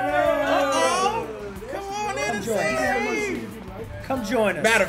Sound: laugh

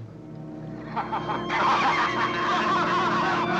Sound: men laughing

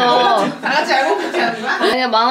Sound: laughing

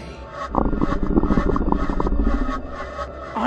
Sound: stomach rumbles

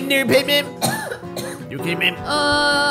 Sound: coughs

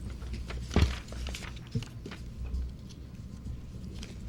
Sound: papers rustling

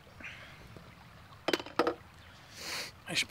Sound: glass clanking

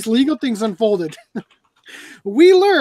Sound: laughs

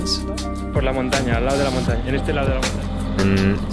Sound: Spanish

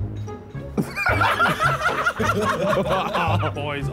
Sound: all laughing

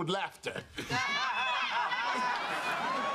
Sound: petersons laugh

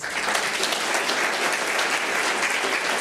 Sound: applause

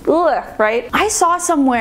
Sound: groaning

